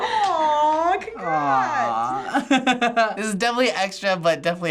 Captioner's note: laughs